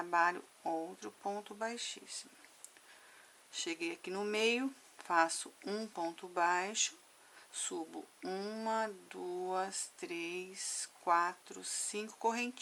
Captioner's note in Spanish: en español